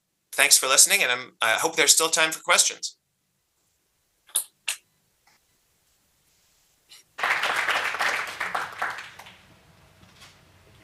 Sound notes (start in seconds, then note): 7.1 applause